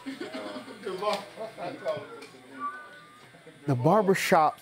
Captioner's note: faint chattering